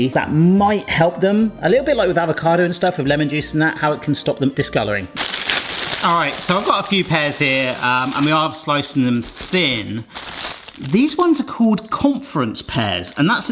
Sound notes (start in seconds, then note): 5.2 packet rustling